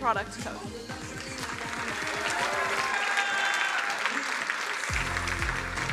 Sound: crowd cheering and applauding

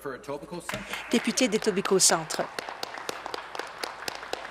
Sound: applause

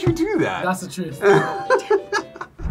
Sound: laughs

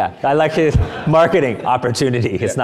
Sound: audience laughing

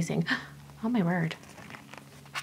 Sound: gasps

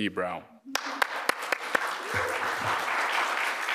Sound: applause

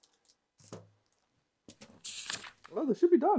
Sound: page turning

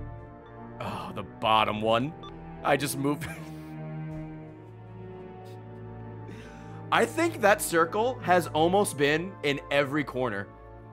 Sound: laughs

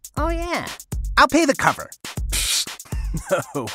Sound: laughing

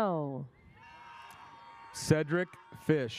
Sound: audience cheers

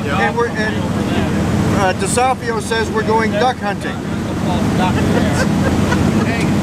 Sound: laughter

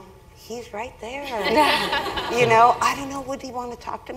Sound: laugh

